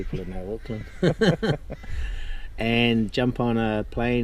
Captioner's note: laughs